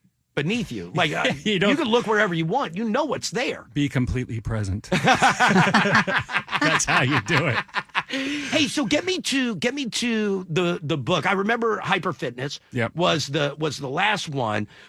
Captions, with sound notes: beneath you. Like you could look wherever you want. You know what's there. Be completely present. (laughing) That's how you do it. Hey, so get me to the book. I remember Hyper Fitness was the last one.